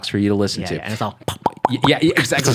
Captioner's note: popping